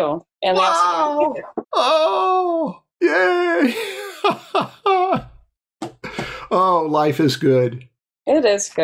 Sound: laughter

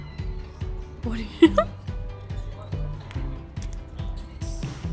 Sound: laughing

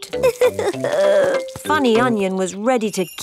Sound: crying

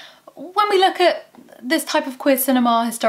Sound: none

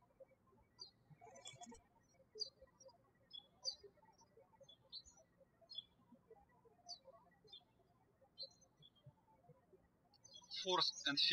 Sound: birds chirping

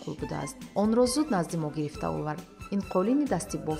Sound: journalist narrating in tajik

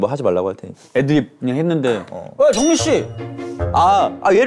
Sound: ratty voice

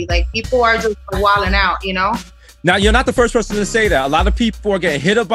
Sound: none

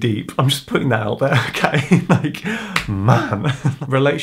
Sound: laughing

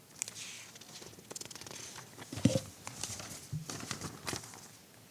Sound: paper rustling

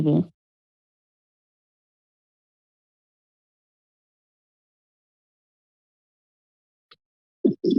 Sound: silence

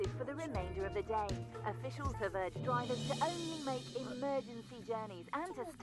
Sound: radio transmission

